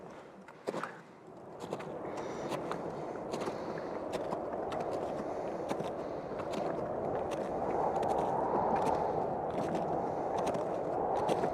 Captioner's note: background - Strong winds, crampons on ice